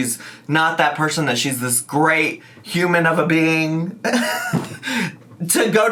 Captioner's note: laughs